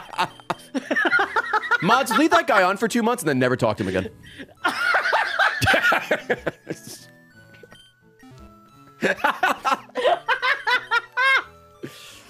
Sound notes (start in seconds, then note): 0.0 laughs; 9.0 laughs